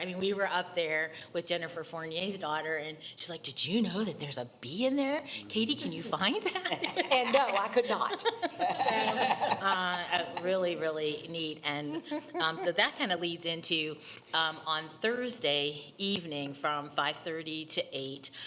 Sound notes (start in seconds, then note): 6.5 laughing; 8.4 attendees laughing